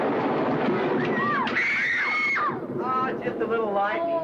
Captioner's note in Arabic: صراخ الأطفال